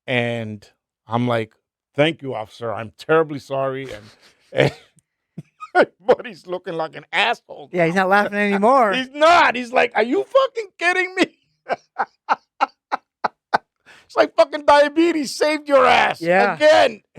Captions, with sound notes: And I'm like, "Thank you officer. I'm terribly sorry." My buddy's looking like an asshole. Yeah, he's not laughing anymore. He's not. He's like, "Are you fucking kidding me?" (laughing) It's like fucking diabetes saved your ass again.